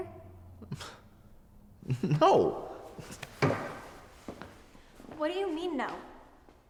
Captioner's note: scoffs